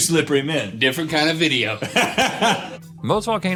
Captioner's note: laughing